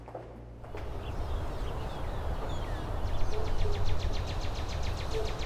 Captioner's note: birds chirping